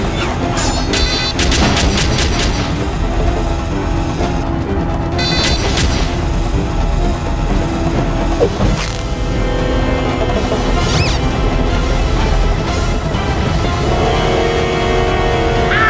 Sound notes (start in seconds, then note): 5.2 beep.. Shot shot shot; 8.6 riip; 10.9 sqeak; 11.6 dramatic Music